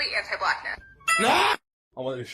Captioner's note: beeping